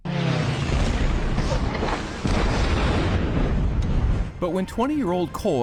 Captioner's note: plane swooshing; explosion